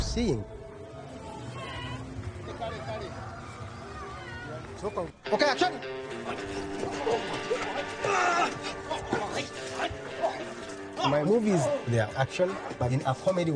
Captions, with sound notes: (atmosphere sounds at the village Wakaliga) Okay, action! (actors grunting)